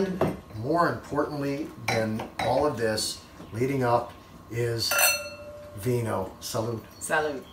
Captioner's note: glasses clanking